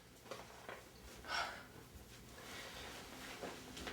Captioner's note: Ted exhales